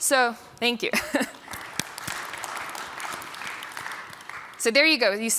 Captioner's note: applause